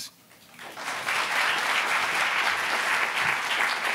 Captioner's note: applauding